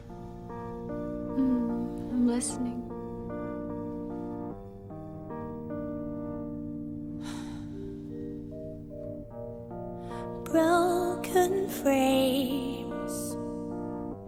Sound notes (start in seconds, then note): 0.4 piano music playing; 7.2 sighs